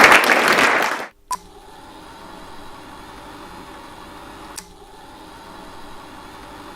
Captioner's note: audience applauds; film reel whirs; film reel beeps